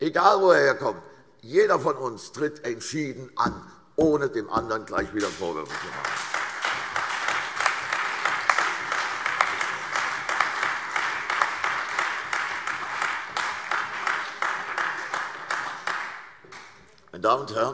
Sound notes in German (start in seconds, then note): 5.1 Beifall CDU, BÜNDNIS 90/DIE GRÜNEN, AfD und Freie Demokraten